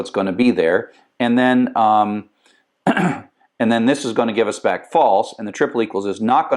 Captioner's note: cough